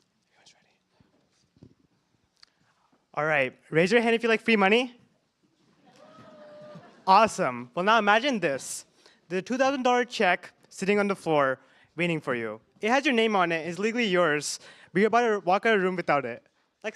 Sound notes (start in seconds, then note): 5.9 cheers